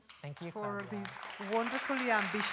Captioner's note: applause